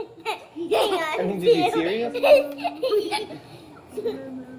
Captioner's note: both laugh